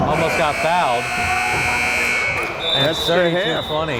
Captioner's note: timer buzzing